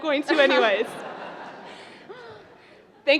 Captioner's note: laughter